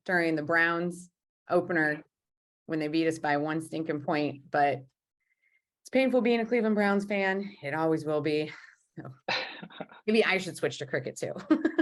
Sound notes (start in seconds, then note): 9.3 laughing